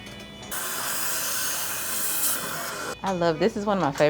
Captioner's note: dental tools whirring